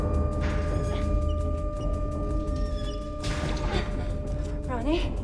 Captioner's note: escape hatch squeaking